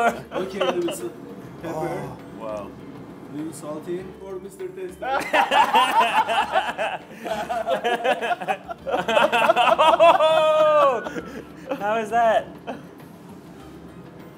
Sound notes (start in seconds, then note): 5.6 laughs; 8.6 laugh